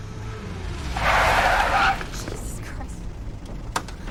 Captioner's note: tires screech